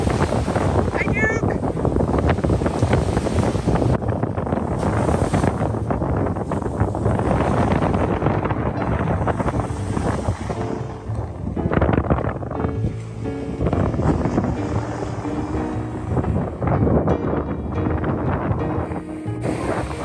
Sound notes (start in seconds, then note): 3.7 waves, Wind and Music